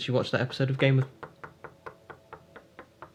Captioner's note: front door knocking